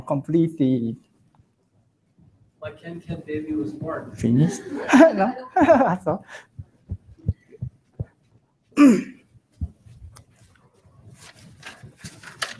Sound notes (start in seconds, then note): 4.4 laughs